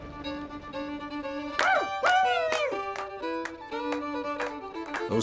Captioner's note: clapping, cheering